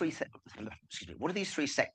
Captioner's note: blabbering